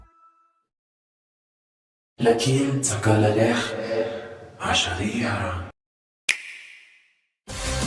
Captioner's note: Árabe - mantido no original